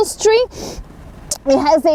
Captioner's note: sniffles her nose